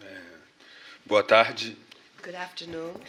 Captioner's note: speaking portuguese